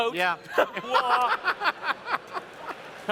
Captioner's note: laughter